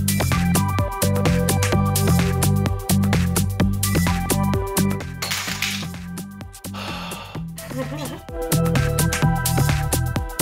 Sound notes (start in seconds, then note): 6.7 frustrated Exhale; 8.4 working Montage Music